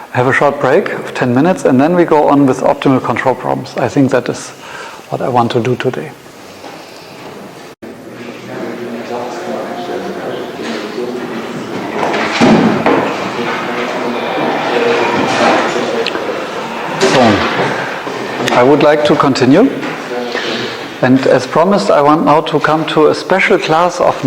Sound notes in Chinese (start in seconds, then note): 6.3 喋喋不休; 11.3 关门声